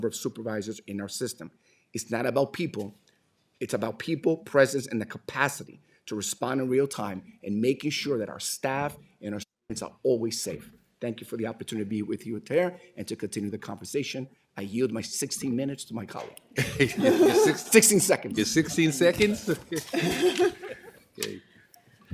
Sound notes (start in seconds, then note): 14.7 laughter